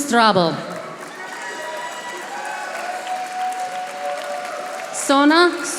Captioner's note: audience applauding